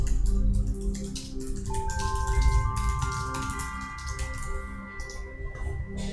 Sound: mouse clicking continues

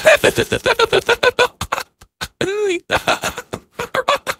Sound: wheeze

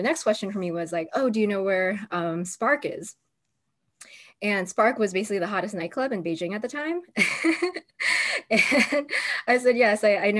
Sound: laughter

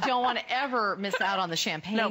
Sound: laughter

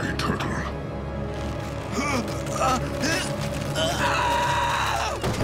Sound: grunting, screaming

